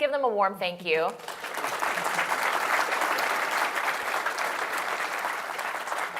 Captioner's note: applause